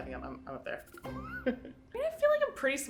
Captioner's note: laughing